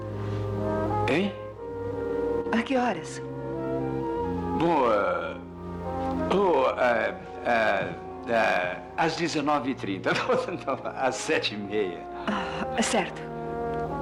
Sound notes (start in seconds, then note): 10.0 chuckles